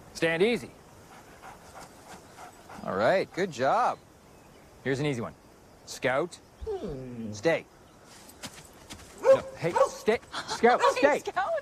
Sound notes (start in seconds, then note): 9.2 barking